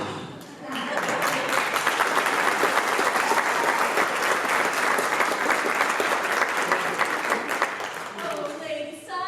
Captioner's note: applause